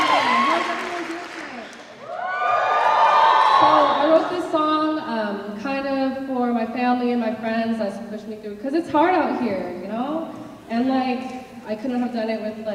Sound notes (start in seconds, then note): 2.3 cheers